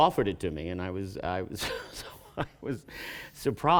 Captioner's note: laughing